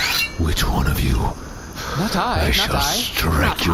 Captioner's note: draws sword